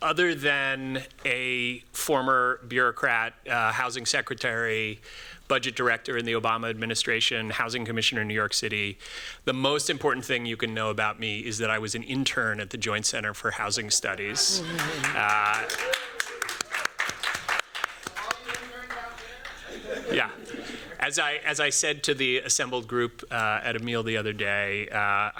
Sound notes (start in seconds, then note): 14.4 applause; 19.4 laughter